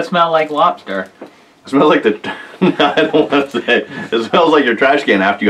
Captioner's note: laughs